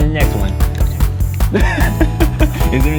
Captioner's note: laughs